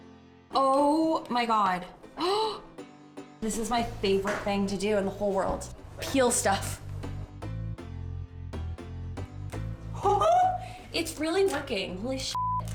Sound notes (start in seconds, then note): 2.2 gasps; 10.0 laughs; 12.3 beeps